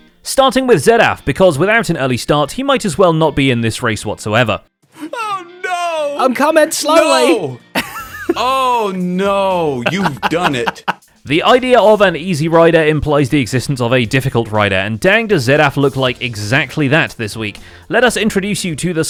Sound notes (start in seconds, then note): 7.7 laughs